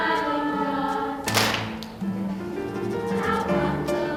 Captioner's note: clapping